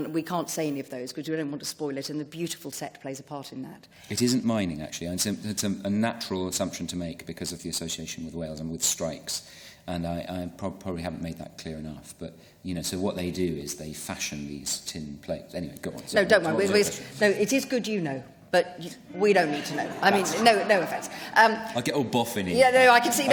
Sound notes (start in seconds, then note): 19.4 laughter